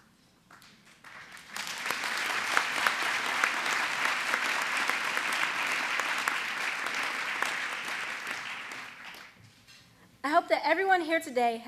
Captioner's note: applause